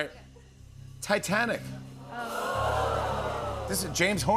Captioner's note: audience "Ohs"